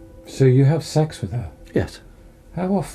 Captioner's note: voiceover